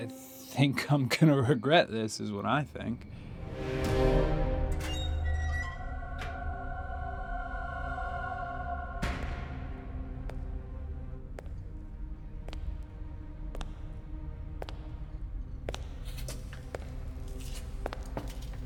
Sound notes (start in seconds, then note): 4.5 gate creeks open; 11.3 footsteps approaching